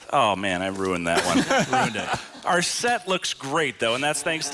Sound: laughter

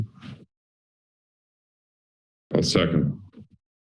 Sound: silence

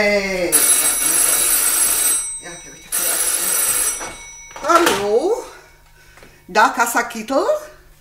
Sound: the phone rings

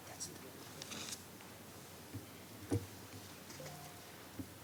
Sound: speaking faintly

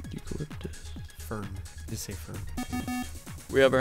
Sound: wispering

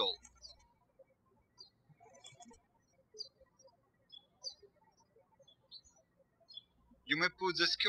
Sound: birds chirping

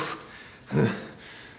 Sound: grunts

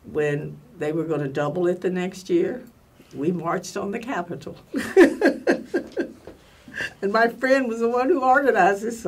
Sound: laughs

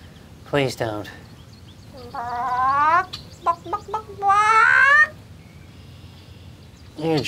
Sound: bawk bawk bawk

